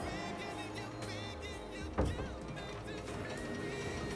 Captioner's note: thumps; creaking